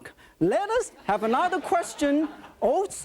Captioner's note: audience laughing